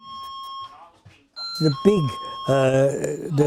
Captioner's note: doorbell